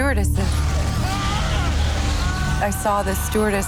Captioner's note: passenger shouting